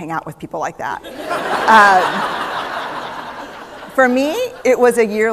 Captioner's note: laughter